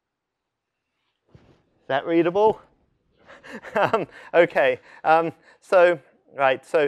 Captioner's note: laughter